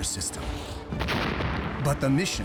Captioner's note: explosion echoes